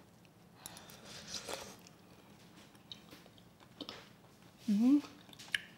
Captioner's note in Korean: 후루룩 소리